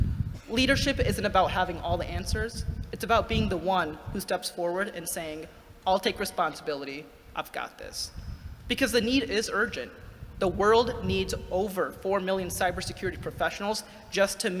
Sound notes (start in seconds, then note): none